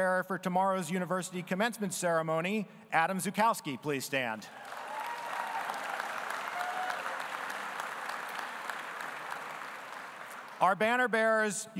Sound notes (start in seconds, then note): 4.5 audience applauding